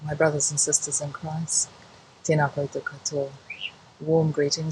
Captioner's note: speaking in foreign language